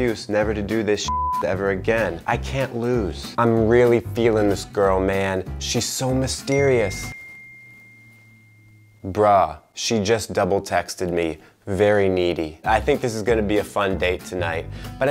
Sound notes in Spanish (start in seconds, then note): 1.0 beep; 6.6 suena el celular